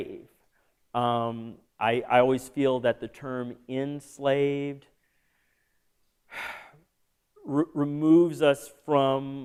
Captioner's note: sigh